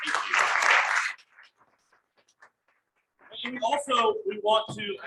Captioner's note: crowd applauses